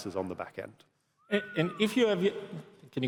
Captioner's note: whistles